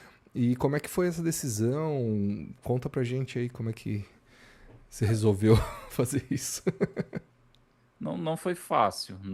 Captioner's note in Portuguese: risadas